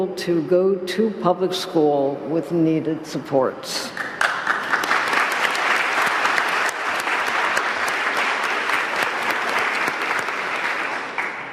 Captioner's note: applause